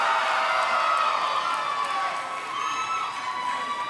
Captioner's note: cheering